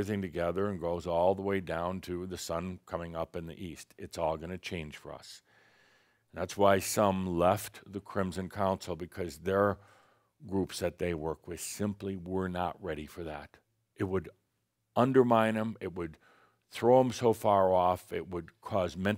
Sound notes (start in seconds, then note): none